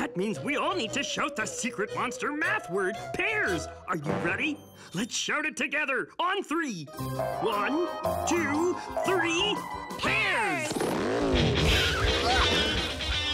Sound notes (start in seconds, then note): 7.2 all cheering